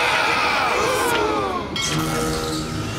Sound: gasping

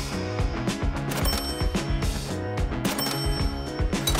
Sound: register chimes

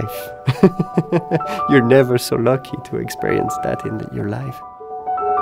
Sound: laughs

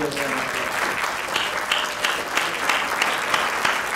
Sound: crowd clapping

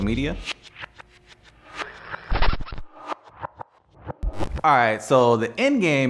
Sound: logo whooshing

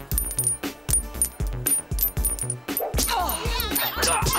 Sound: rings clanging

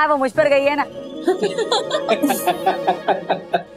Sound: laughing

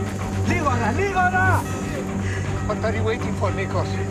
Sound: speaking in Greek

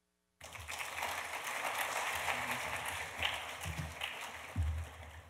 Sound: audience applauding

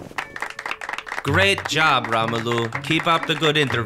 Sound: clapping

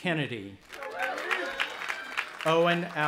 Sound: audience applauding and cheering

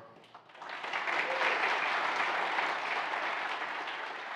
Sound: audience applauding

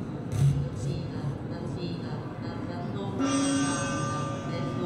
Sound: speaks in foreign language

